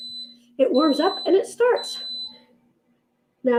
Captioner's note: beeps